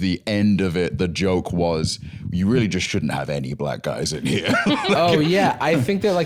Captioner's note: laughs